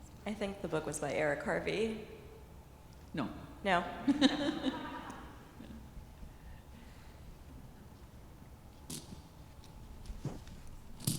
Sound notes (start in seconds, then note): 4.1 laughing